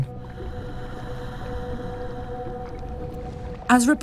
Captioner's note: deep exhaling